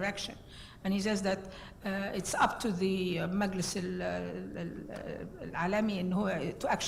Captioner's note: foreign words